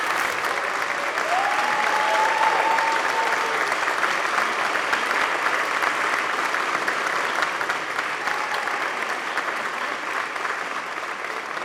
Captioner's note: applause